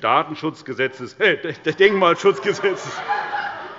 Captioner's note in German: Heiterkeit